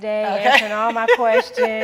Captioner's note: laughing